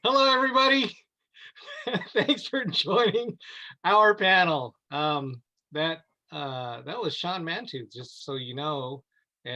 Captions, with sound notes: - Hello, everybody. (laughs) Thanks for joining our panel. That was Sean Mantooth, just so you know.